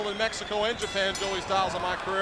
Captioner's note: bell rings